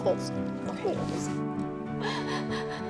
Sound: shaky breaths

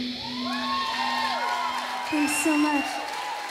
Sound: applause

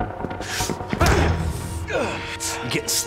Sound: grunting

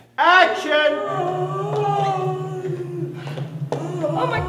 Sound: moaning

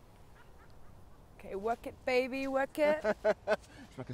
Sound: Dean laughs

